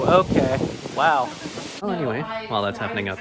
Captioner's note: wind gets violent